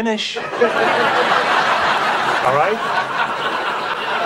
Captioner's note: audience laughing